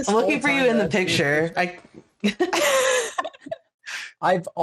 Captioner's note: laughter